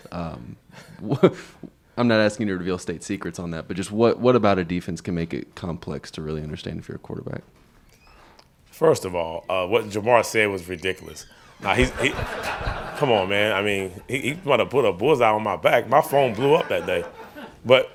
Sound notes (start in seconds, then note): 0.8 both chuckling; 11.6 reporters laughing